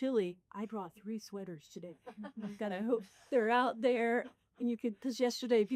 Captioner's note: all laugh